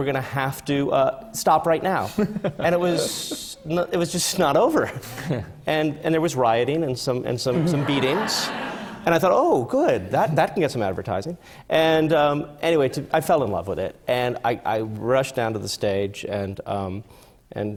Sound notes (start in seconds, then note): 2.0 laughs; 7.5 laughter